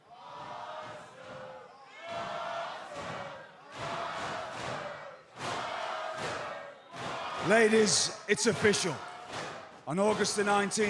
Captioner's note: fans chanting